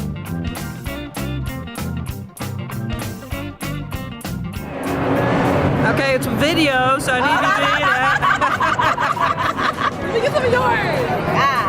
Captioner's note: laughing